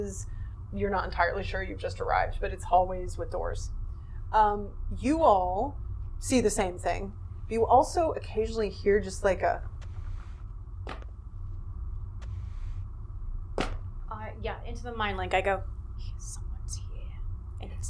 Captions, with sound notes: You're not entirely sure you've just arrived, but it's hallways with doors. You all see the same thing. You also occasionally, just like a (step and drag sound) Yeah, into the mindlink I go, 'Someone's here.'